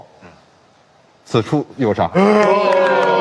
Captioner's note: applause